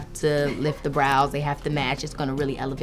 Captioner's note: laughing